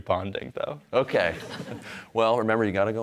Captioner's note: audience laughing